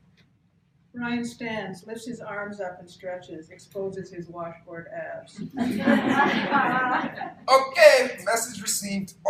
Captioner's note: laughter